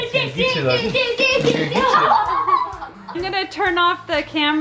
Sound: yelling and squealing

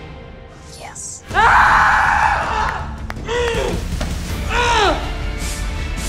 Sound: screaming and grunting

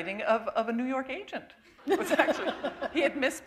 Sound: laughter

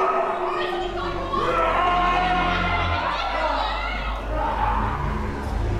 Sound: roars and screams; people shouting

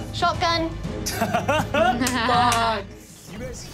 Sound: laughing

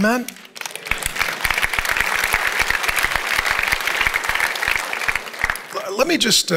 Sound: congregation applauds

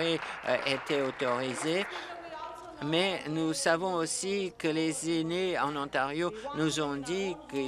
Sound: applause

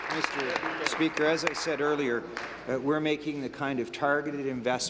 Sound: applause

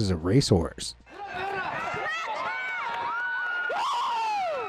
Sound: crowd cheering

